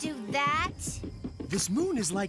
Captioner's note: Gator Thumping Ground repeatly